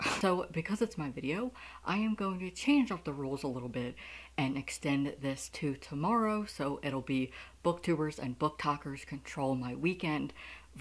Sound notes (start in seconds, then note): none